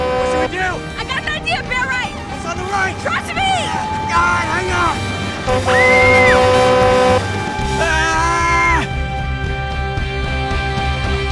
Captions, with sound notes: - What should we do? - I got an idea, bear right. - What's on the right? - Trust me! Alright, hang on! [screaming] [screaming]